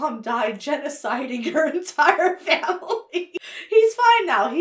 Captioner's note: laughs